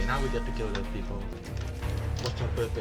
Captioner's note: radio